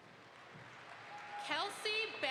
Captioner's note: audience applauds